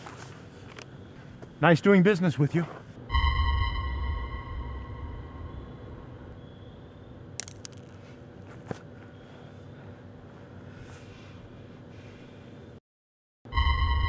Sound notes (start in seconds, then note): 3.1 DBZ teleport sound